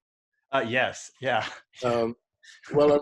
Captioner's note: chuckles